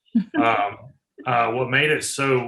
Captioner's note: laughing